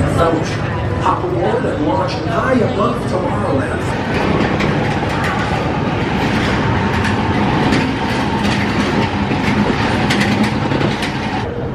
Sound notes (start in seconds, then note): 4.1 track clacking